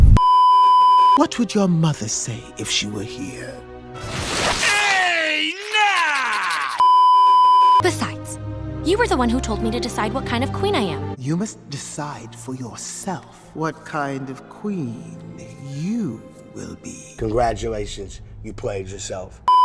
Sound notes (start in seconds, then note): 6.8 beeeeeep